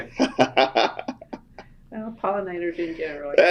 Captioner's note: laughter